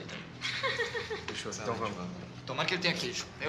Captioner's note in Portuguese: risos